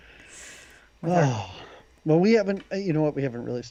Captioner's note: laughs; sighs